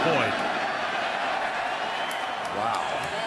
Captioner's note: cheering